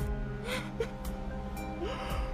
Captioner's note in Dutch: snikkend